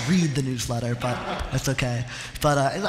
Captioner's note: laughter